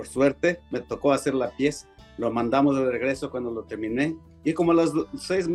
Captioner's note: speaking Spanish